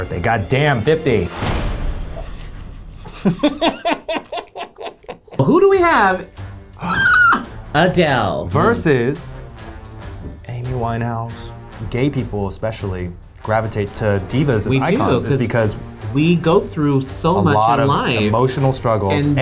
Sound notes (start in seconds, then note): 3.0 laughs; 6.8 shrieks